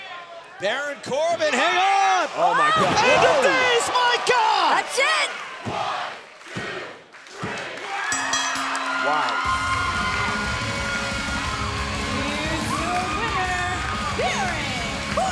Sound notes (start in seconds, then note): 7.1 cheers and applause; 8.1 bell ringing